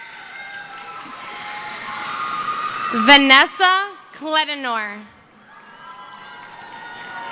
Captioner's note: screaming